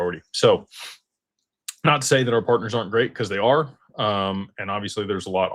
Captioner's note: snorts